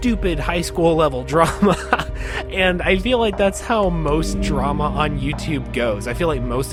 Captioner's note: laughs